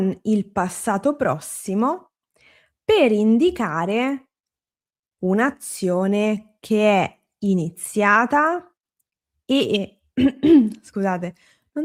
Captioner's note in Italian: schiarire la voce